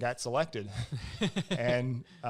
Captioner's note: both laugh